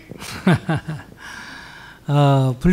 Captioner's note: laughter